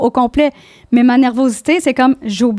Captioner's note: in french